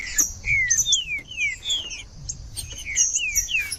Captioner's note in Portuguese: trinca ferro cantando